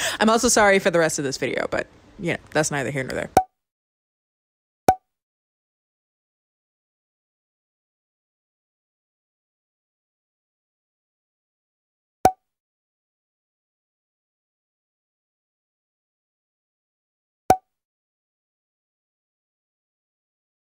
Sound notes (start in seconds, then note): 4.5 popping sound